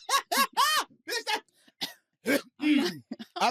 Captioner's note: coughs